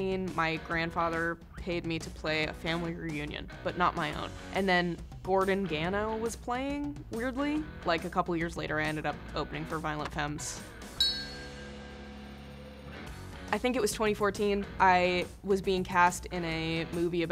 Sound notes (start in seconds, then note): 11.0 bell chimes